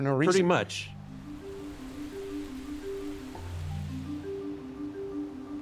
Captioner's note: calm music; grass rustling; wind whooshing